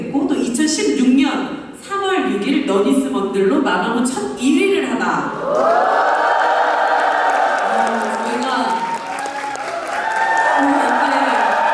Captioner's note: cheers, applause